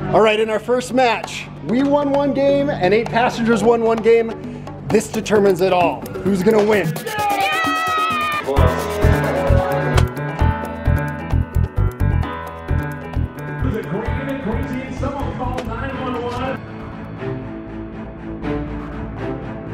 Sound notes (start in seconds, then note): 7.0 shouting; 16.9 dramatic music